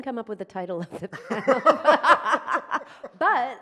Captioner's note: laughs